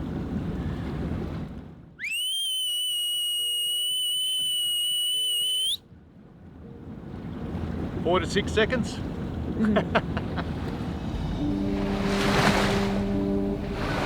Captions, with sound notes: (loud whistling) - Four to six seconds (chuckles).